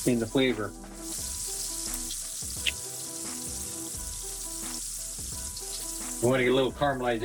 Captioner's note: sizzling